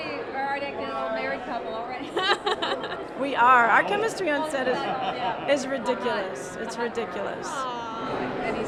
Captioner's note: laughs